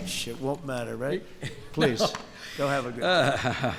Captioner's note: laughs